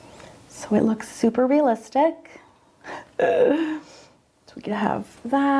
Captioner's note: laughs